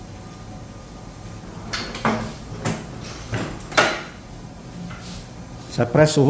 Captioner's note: press machine noise